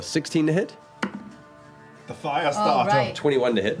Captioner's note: German accent